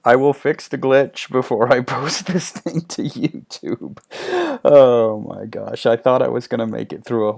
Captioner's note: laughing